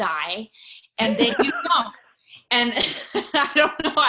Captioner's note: laughs